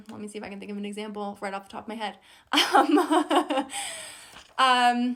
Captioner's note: laughs